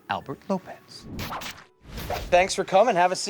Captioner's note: whip swooshing